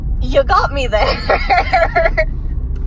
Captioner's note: laughs